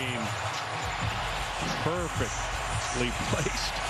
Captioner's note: cheers and applause